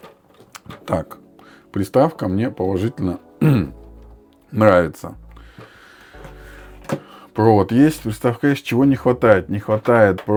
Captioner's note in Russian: откашливается